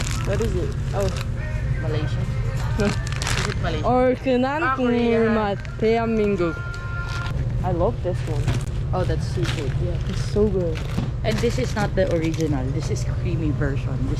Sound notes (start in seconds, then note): 3.7 Korean